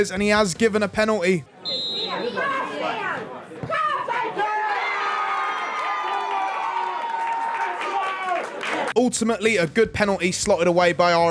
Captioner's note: applause